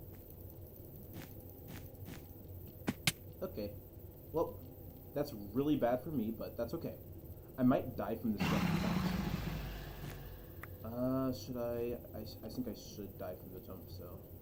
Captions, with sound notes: okay well that's really bad for me but that's okay I might die from [growl interrupts "fall damage"] should I I think I should die from the jump so